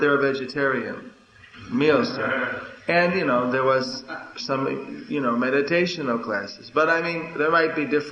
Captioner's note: laughter